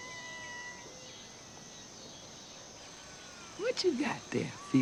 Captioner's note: cats mewing